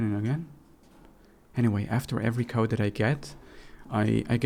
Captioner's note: whispers